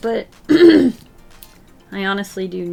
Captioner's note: clears throat